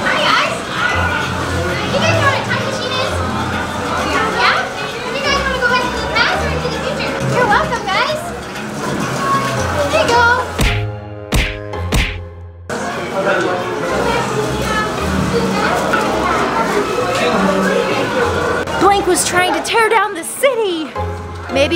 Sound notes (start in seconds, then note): 11.2 comical punching; 14.3 background chattering